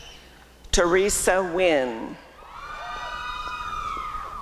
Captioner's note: applause and cheering